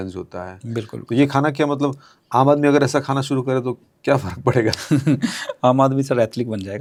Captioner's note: laughs